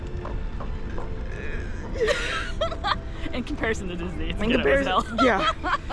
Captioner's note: laughing